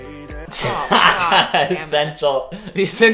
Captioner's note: upbeat music; laughs